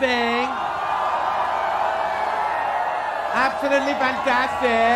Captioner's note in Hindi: चियरिंग